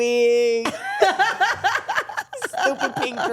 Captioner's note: everyone laughs